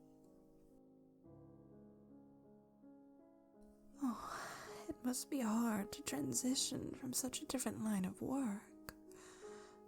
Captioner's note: coos